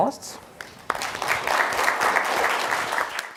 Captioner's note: applause